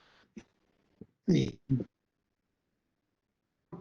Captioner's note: recording cuts out; recording cuts out